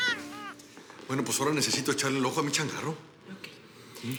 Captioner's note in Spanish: Llanto de bebé